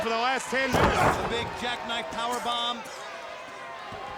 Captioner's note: body thudding